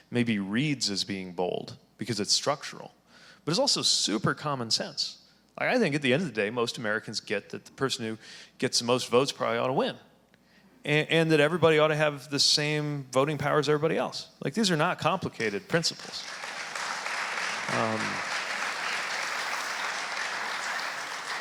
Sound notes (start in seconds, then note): 15.4 audience applauding